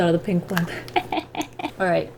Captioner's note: laughs